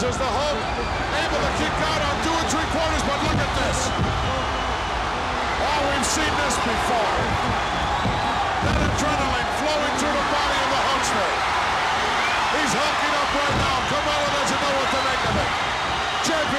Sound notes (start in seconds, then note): 11.4 audience cheers